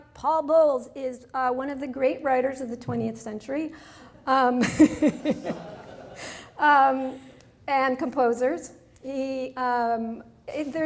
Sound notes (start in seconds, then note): 4.7 laughs